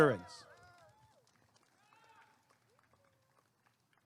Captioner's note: applause and cheering